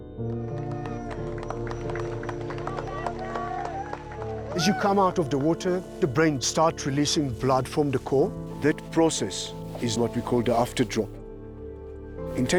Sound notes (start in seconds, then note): 0.1 spectators applauding and cheering